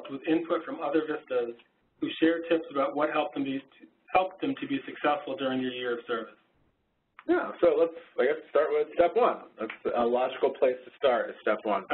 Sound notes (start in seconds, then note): 7.4 voiceover